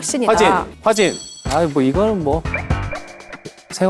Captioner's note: confident